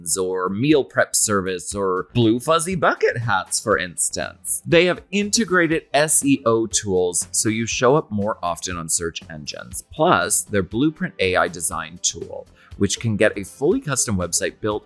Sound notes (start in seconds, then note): none